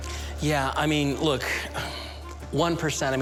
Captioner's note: sighs